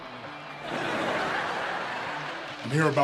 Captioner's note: audience laughs